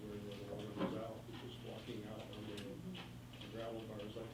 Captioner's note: faintly speaking; faintly speaking